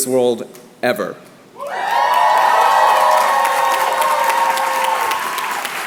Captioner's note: cheers and applause